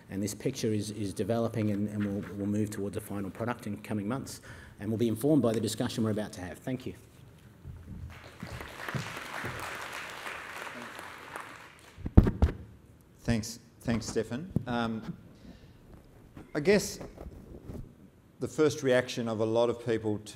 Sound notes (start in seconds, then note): 8.0 applause